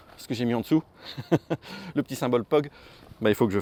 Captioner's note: laughs